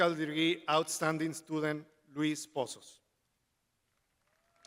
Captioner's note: crowd applauding